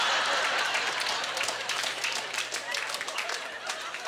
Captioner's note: applause; laughter